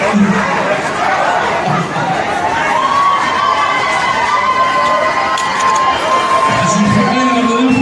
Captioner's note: cheers